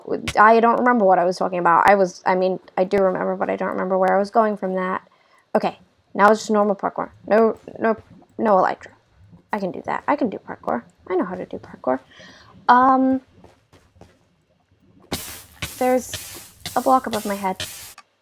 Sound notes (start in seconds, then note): none